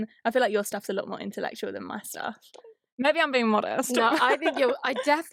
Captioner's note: laughs